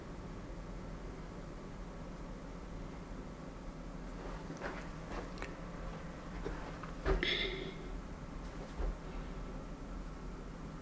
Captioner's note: sniffing